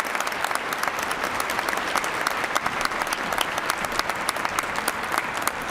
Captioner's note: applause